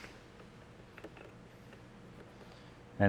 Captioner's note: vacuum whirring